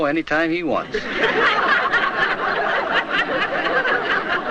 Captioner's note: crowd laughs